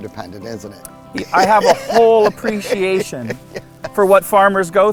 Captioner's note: laughing